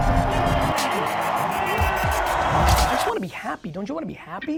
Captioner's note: crowds cheering